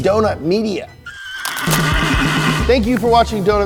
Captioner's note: horse neigh